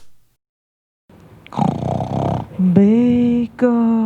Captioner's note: snoring